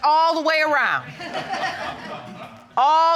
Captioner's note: audience laughing